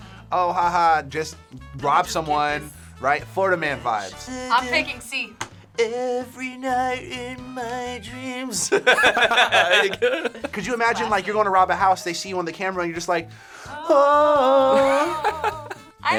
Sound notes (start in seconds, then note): 8.6 laughing